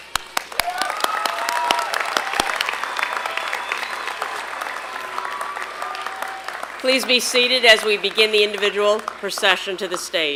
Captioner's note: applause and cheering